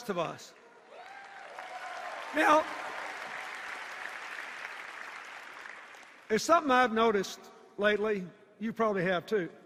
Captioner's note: applause and cheers